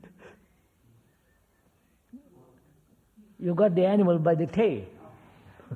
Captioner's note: laughs